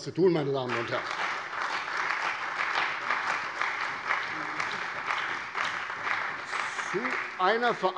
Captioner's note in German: Beifall bei der CDU und dem BÜNDNIS 90/DIE GRÜNEN